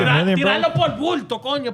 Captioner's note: speaking In Foreign Language